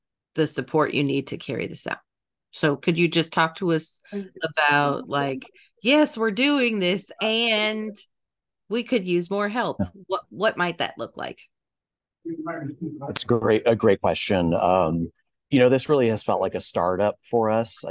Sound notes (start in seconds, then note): 12.2 participant faintly speaking